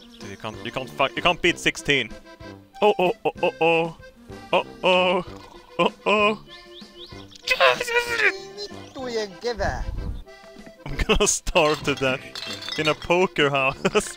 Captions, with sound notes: Dude, you can't fuck- you can't beat sixteen! Uh-oh oh oh oh... Uh-oh... Uh-oh...! [SQUEALING] I'm gonna starve to death, in a poker house.